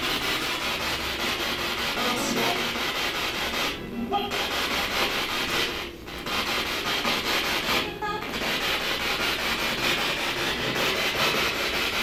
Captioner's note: radio noise from the spirit box